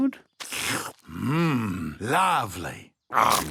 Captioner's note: slurps